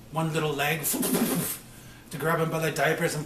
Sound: imitates clattering

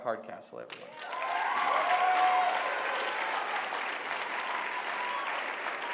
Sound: applause

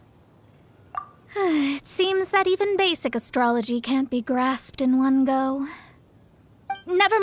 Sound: sigh

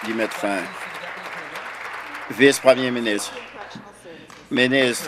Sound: applause

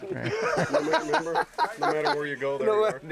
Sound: laughing

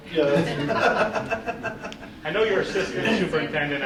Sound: group laughing

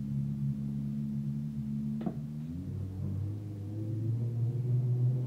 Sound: low-pitched humming, whirring

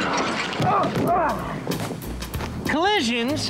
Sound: grunting

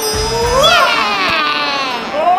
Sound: magical chimes; ninja fighting sounds

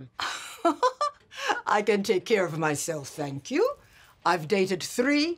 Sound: Flo laughs

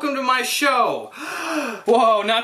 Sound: inhales

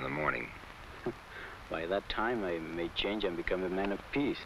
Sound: chuckles

